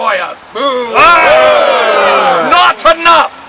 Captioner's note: crowd